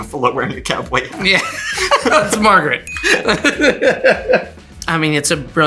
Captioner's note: everyone laughs